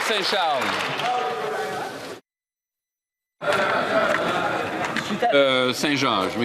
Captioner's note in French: applaudissements